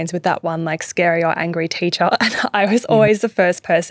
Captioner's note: chuckling